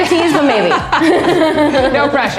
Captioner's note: both laugh